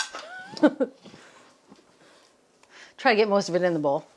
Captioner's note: Julia chuckles